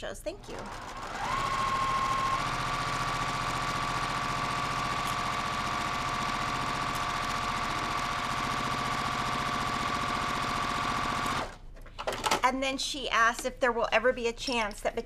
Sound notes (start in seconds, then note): 1.1 sewing machine whirling